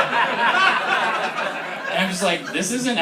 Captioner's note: laughter